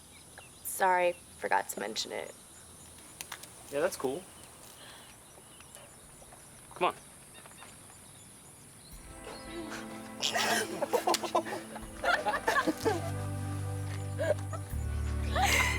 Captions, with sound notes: SORRY...FORGOT TO MENTION IT. YEAH, THAT'S COOL. COME ON. [both chuckle] [all three laughing]